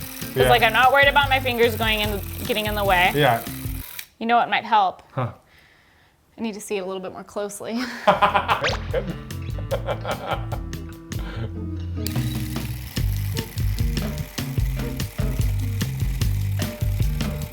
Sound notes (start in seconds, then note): 7.8 laughing; 12.0 device clicking